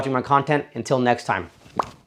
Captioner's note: bubble bursting